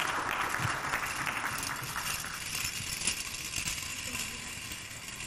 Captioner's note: beads clinking